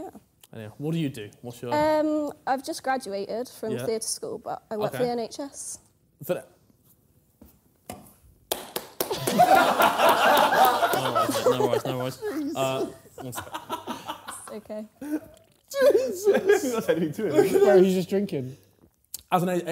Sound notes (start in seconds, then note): 8.5 clapping; 9.2 laughing loudly